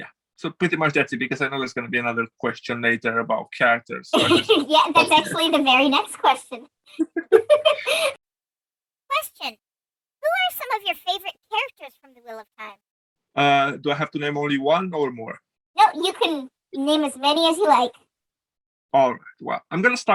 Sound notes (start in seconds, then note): 4.1 laughs